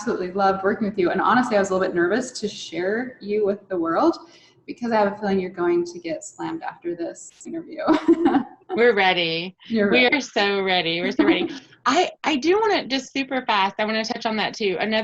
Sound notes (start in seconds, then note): 8.1 laughs